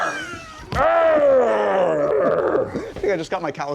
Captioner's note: grunting